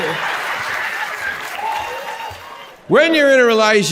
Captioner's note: audience laughs